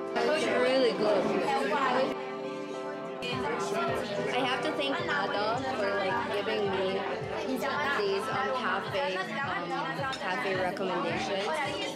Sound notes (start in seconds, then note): none